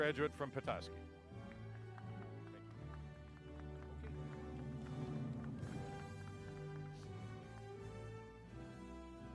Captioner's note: applause